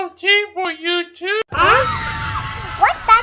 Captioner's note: the sound of Screams and Mayhem